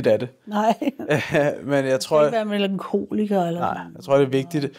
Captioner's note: chuckles